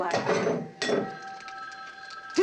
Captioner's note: phone ringing